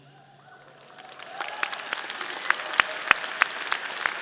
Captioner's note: audience applauding